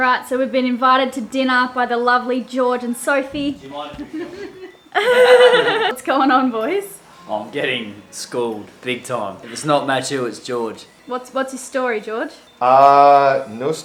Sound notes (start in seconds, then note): 4.9 all laugh